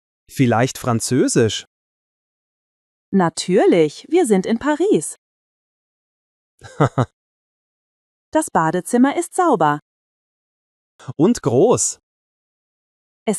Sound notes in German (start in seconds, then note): 6.6 lacht